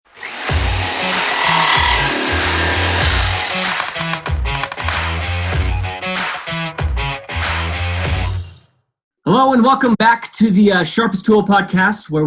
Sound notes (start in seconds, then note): 0.0 saw whirring; 0.2 rock music